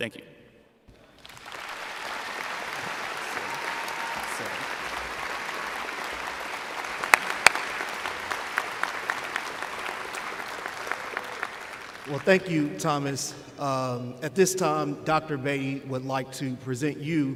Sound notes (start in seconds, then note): 1.0 applause